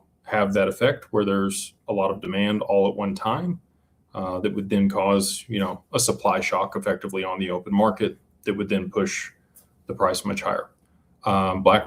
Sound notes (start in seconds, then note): none